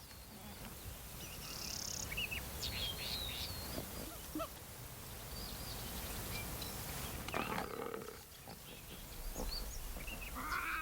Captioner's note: growls